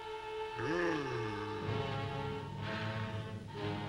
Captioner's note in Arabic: بوبوكا تتأوه